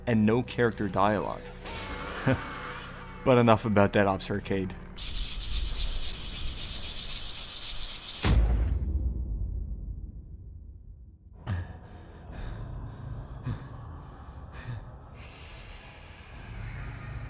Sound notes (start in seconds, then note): 5.0 hulu hoop sound effect; 8.2 thud sound effect